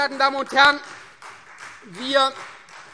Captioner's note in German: Beifall Freie Demokraten